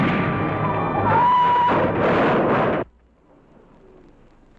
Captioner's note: car crashing; breaks squealing